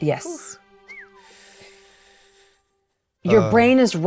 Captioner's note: whistles